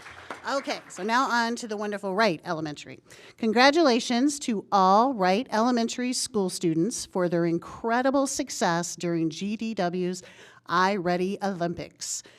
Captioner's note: applause